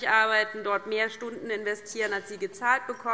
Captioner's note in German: none